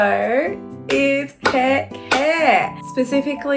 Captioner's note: woman clapping